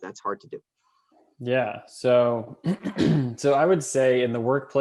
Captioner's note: clears throat